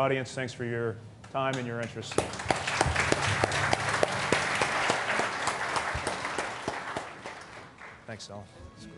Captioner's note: applause